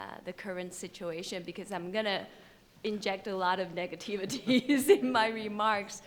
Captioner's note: chuckles